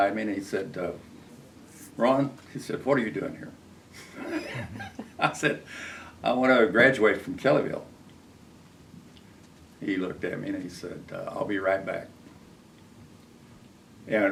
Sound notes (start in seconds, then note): 4.0 laughs